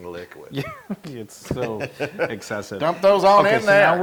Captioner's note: laugh